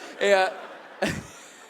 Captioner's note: audience laughs